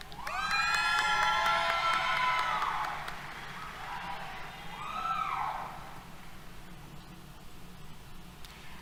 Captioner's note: applause, Cheers